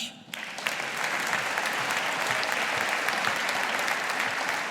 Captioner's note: audience applauding